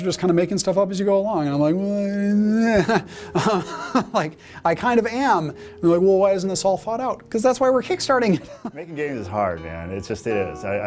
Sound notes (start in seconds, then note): 2.5 chuckles